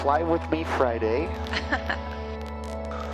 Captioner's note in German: lacht